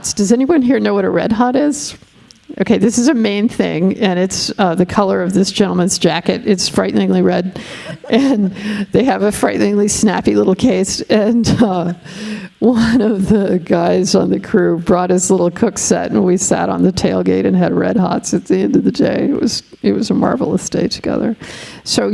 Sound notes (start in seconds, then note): 7.6 laughing; 10.8 laughing